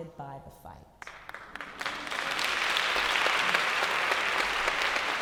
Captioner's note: applause